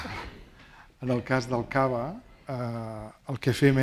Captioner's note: speaking spanish